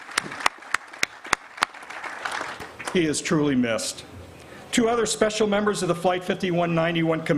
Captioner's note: applause